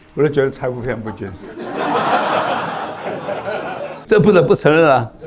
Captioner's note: laughs